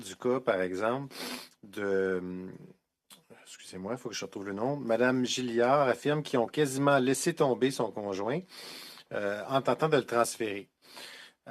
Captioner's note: speaking French